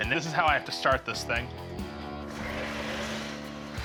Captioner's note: grinding